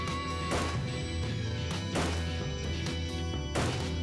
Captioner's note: gun firing